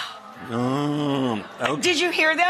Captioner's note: audience moans